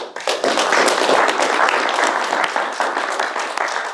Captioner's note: applause